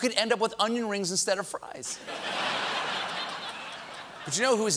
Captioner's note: laughter